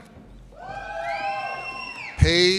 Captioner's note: audience cheers and applauds